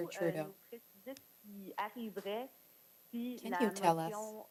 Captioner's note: speaking French